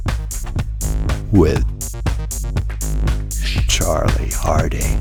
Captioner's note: intimidating Voice